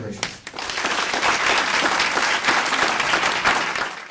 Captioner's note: audience applauds